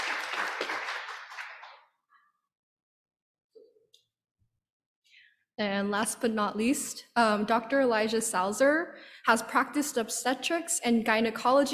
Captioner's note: applause